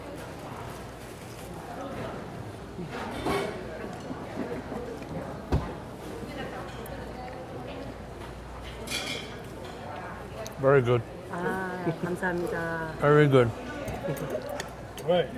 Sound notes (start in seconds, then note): 0.6 ambient restaurant noise